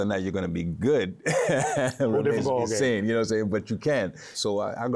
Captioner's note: laughs